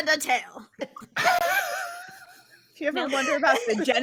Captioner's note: all laughing